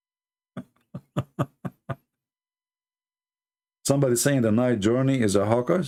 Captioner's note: Ketawa